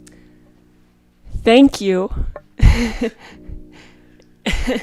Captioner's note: chuckles